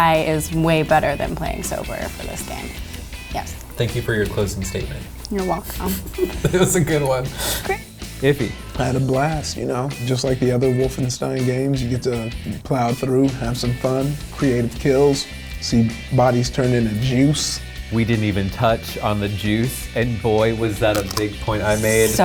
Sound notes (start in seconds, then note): 5.6 laughs